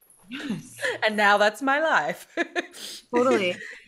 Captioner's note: laughs